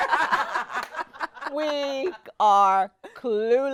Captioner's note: laughing